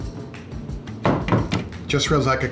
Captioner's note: door shuts